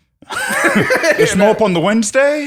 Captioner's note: laughs